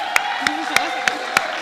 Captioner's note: laugh; applause; laugh